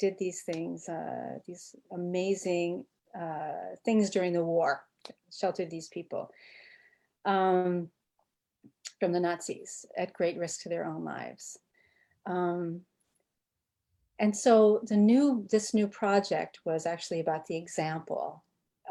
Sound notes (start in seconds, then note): none